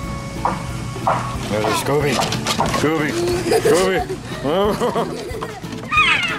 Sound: laughter

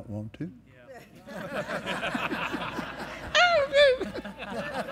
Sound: laughter

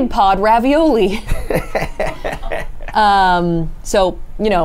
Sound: laughs

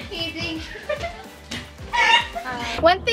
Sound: laughs

